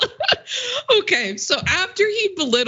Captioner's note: laugh